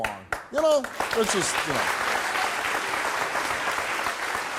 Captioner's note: audience clapping